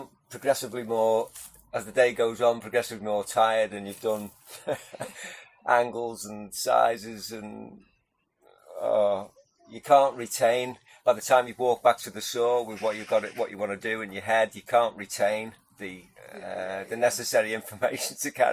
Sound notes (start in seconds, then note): 7.7 sighs